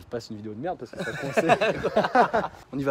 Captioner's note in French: rires